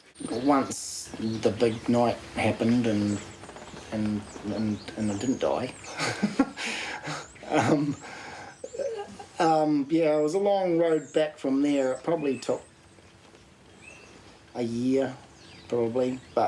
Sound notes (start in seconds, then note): 7.0 chuckles